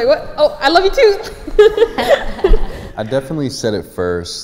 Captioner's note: laughs